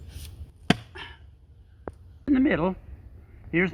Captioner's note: ax chops